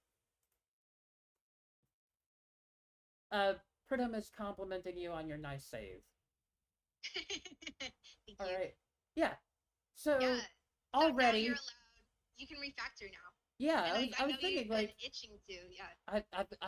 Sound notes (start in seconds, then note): 7.0 laughs